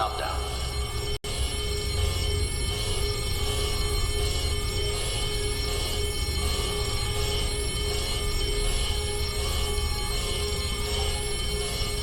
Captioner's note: alarms & Bells